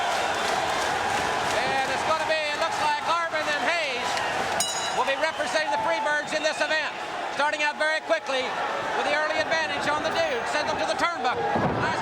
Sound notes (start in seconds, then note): 4.6 bell ringing